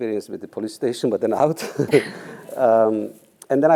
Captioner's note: laugh